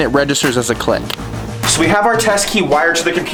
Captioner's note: connection clicks